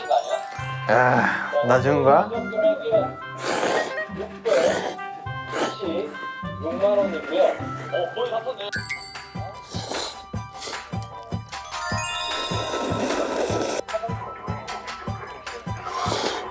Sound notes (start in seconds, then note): 3.3 Menyeruput mie